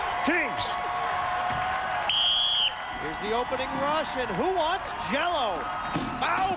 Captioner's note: whistle blows